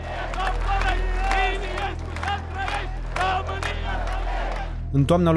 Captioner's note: chanting